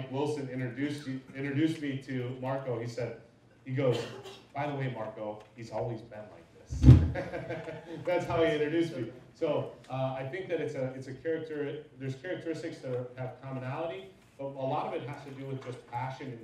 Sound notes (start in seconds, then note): 7.0 laughs